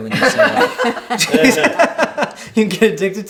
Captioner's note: laughing